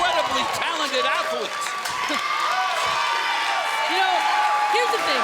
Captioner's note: crowd cheering